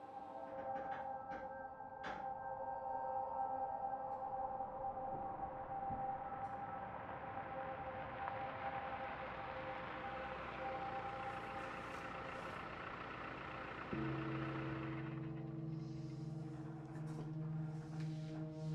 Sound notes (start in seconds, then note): 5.7 sound of car passing outside; 10.6 engine running; 14.0 bell rings; 15.5 engine stops